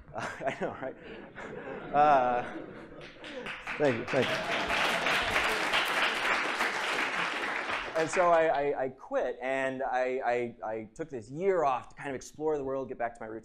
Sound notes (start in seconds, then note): 3.0 applause